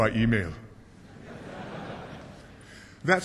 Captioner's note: laughter